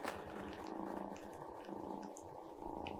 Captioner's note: purring